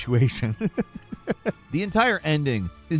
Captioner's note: Falcon laughing